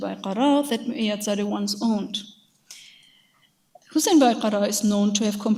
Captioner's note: speaks in a foreign language